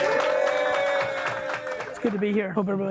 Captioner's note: group cheering